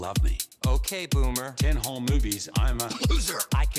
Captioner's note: coughing